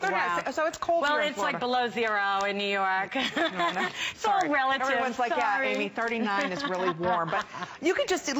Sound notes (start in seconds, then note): 3.1 laughter; 6.3 laughter